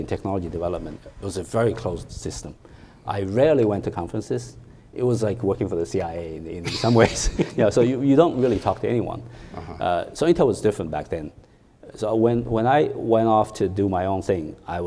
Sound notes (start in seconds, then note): 6.6 chuckles